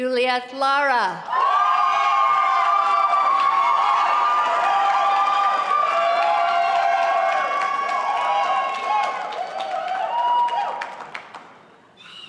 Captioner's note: applause